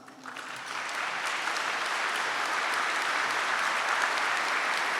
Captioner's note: audience applauding